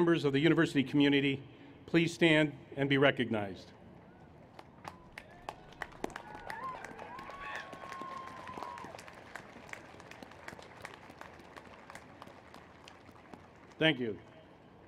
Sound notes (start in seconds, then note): 4.8 applause and Cheers